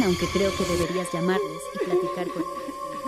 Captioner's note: ghostly sobbing